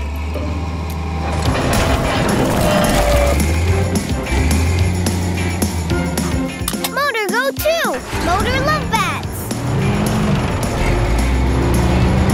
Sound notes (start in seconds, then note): none